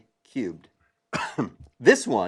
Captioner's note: cough